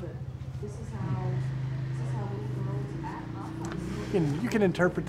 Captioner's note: traffic roaring; woman talking quietly